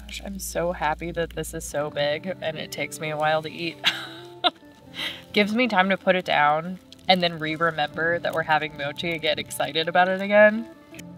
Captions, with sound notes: I'm so happy that this is so big and it takes me a while to eat. (laughs) Gives me time to put it down and then re-remember that we're having mochi and get excited about it again.